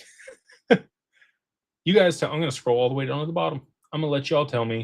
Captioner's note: laughter